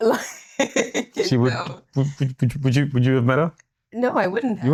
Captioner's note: laughs